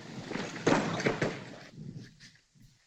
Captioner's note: thud